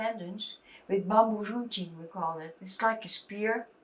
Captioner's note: non-english